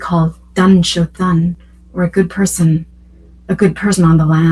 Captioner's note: non-English speech